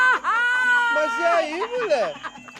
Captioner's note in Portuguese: gargalhadas